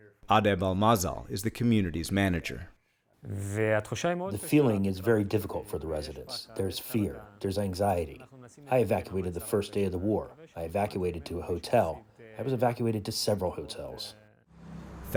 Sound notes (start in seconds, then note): 5.0 through translator